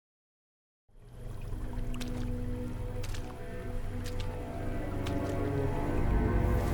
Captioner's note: water gurgling